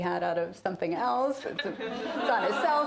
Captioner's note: laughter